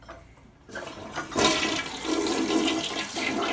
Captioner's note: toilet flushes